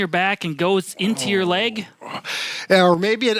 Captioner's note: groaning